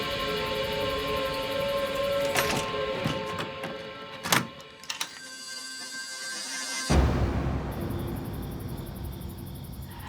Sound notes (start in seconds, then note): 4.3 locks clicking